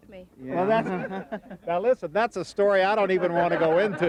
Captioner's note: laughing